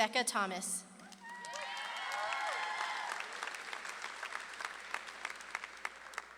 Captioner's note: audience claps and cheers